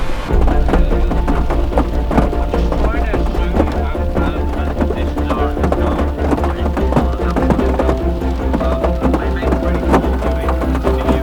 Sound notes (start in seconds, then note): 1.4 faint chattering; 1.4 rain pattering